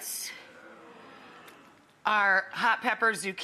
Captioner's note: crowd murmuring